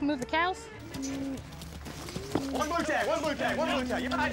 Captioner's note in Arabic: ضربات حوافر